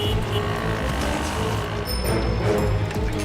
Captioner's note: bicycle bell dings